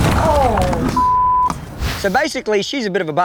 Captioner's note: tense music; groans